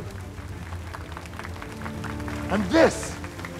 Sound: applause

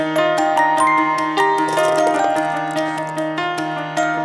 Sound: marbles rolling

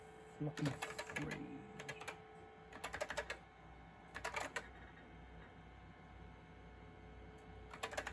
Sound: misc mad typing skillz

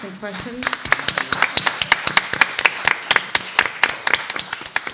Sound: applause

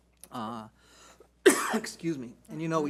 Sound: coughs

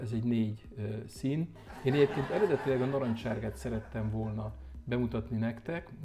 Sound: laughter

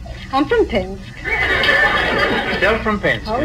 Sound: audience laughs

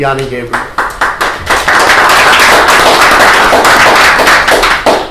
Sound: applause

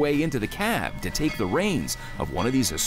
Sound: train bell ringing

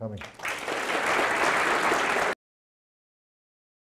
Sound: applause

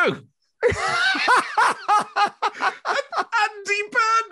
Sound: laughing

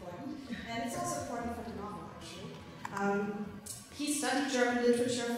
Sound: speaking foreign language

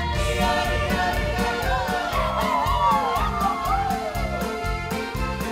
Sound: dancers cheering

